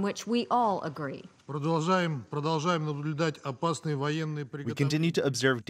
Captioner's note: through translator